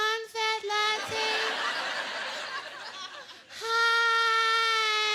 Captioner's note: laughter